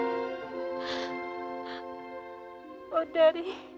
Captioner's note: crying